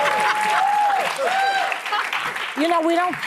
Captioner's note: audience cheering